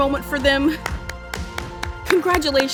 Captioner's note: clapping